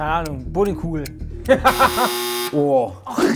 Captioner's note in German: Lachen